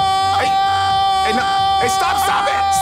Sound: yelling

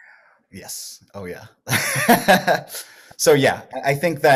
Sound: laughs

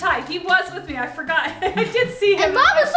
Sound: laughs

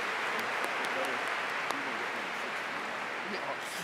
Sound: applause

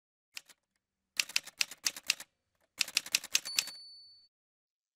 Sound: typewriter sounds

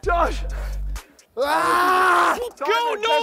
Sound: screaming

